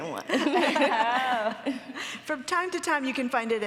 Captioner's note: Anna and Paulina laughing